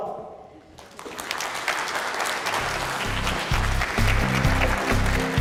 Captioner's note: applause